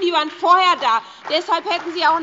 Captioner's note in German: Beifall bei der SPD und der LINKEN